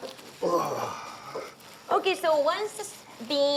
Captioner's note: grunting